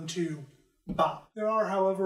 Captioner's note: bop